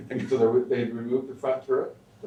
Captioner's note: laughs